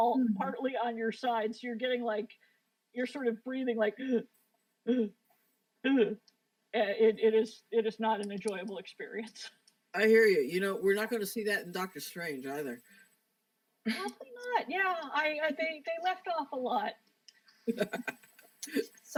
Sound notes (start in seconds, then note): 6.0 gasping; 17.6 laughter